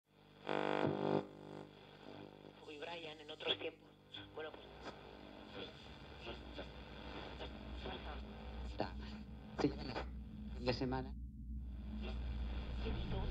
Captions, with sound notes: The war of the worlds (Sounds of a Radio being tuned)